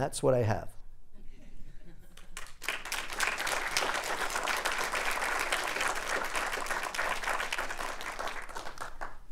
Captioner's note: applause